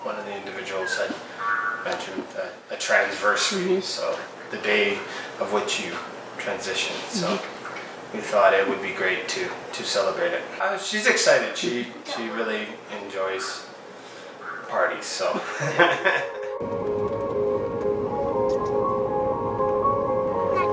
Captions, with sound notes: One of the individuals had mentioned a transversary, so the day of which you transition, so we thought it would be great to celebrate it. She's excited. She really enjoys parties, so (laughs). (dramatic music)